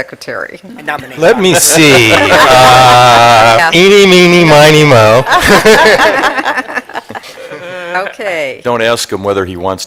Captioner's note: laughter